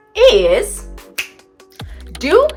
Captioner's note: snapping